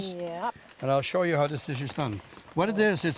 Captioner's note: rustling